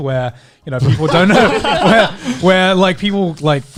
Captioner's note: laughing